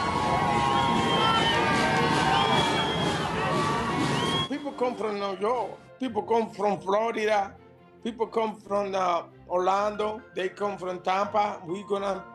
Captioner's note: cheers and Applause